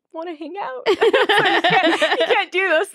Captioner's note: laughing